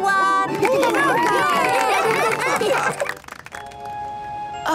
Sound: cheering, applause

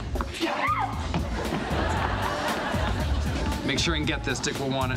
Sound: audience laughing

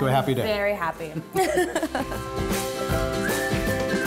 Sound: laughing

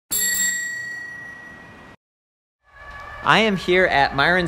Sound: bell dings

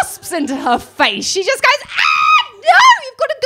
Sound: screams

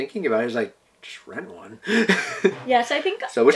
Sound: laughs

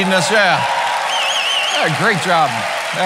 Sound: cheering

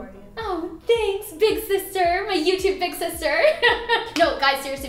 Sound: laughing

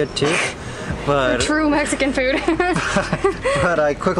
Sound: laughter

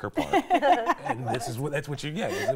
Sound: laughing

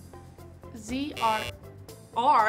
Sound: playful music; buzzer sounds

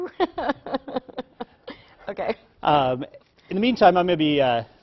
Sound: laughter

